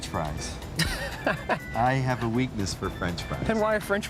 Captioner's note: laughing